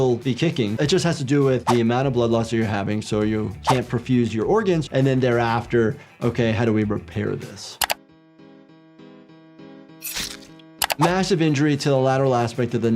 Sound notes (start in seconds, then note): 7.3 pensive music; 7.8 mouse clicking; 9.5 blade rasping; 10.0 blood squelching